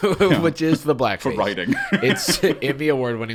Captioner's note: laughing